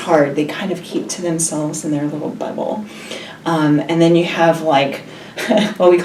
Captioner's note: laughs